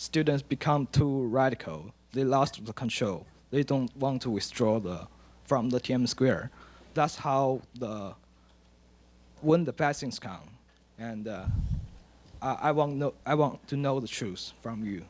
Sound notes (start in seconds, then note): 8.5 speaks Mandarin